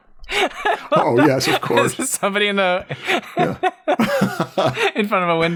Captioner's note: laughter